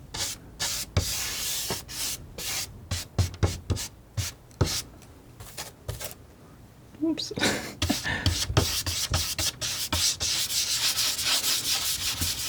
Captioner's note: scratching